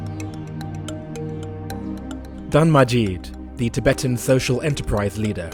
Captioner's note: voiceover